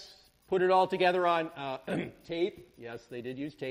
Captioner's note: clears throat